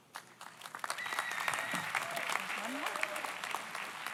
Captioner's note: audience applauds